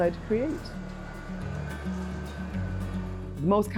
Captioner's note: hand crank winding